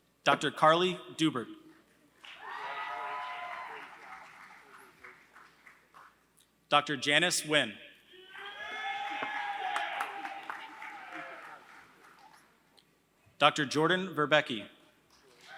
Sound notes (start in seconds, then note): 0.0 applause; 9.0 applause